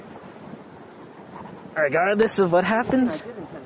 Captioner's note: laughs